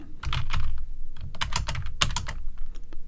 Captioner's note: typing